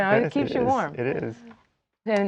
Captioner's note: laughing